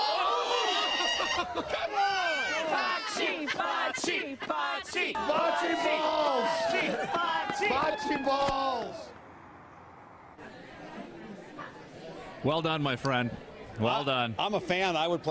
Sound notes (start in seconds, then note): 2.6 cheering and applause